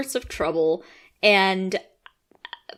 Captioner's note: quiet croaking, what are words